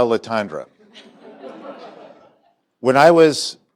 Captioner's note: laughter